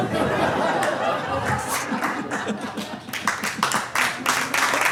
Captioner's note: audience laughing; audience applauding